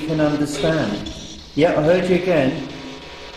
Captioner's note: static buzzing